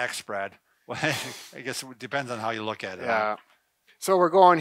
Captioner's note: laughs